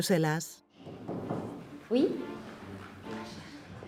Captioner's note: knock, knock